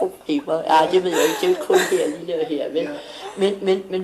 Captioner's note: laughing